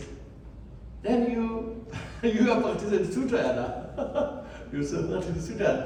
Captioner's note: laughs